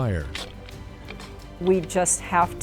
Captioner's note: sound of tool digging